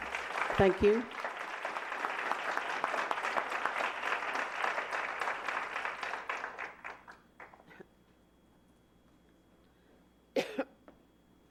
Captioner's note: applause